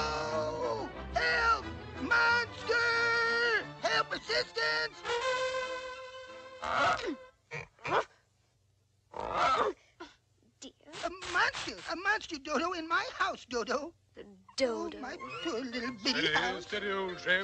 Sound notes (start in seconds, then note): 3.5 trumpet; 6.6 grunting